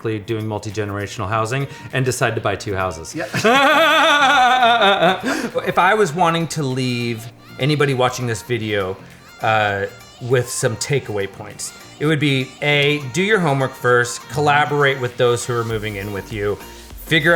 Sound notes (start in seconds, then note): 3.1 laughing